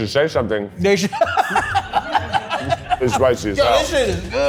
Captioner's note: laughs